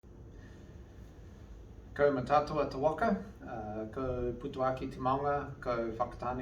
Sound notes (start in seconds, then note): 0.0 non-english speech